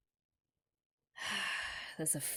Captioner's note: heavy sigh